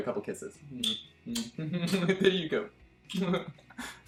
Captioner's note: kissing